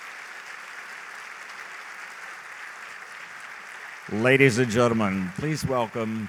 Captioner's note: applause